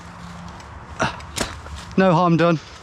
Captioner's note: grunts